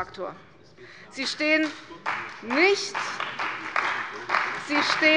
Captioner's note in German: Beifall bei der CDU und dem BÜNDNIS 90/DIE GRÜNEN